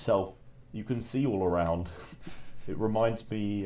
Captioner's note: chuckles